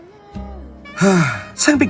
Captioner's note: sigh